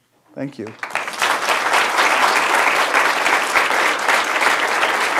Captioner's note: audience applauding